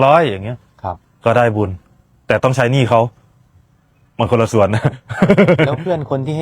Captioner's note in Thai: เสียงหัวเราะ